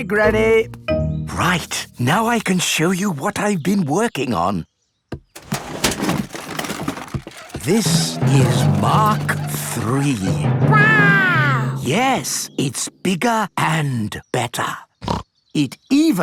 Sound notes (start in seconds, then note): 5.3 clattering; 15.0 snorts